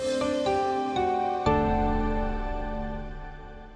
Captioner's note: air whooshing